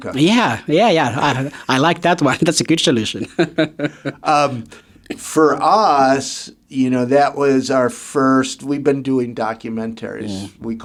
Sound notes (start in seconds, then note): 3.0 laughs